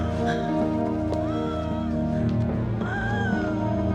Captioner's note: labored breathing